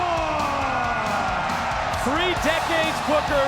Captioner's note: crowd cheering